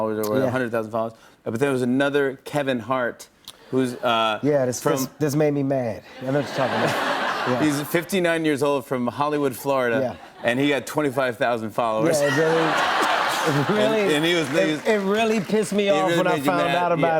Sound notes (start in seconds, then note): 6.2 laughter; 12.3 laughter